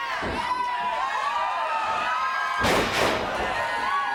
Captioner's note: crowd cheers